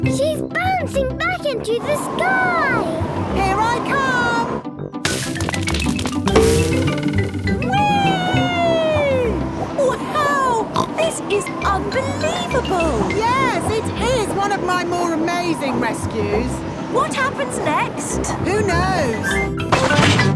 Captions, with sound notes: - She's bouncing back into the sky! - Here I come! Wee! (snorts) - Wow! This is unbelievable! - Yes! It is one of my more amazing rescues! - What happens next? - Who knows?